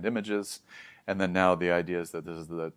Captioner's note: inhales